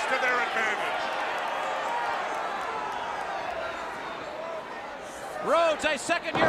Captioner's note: crowd cheering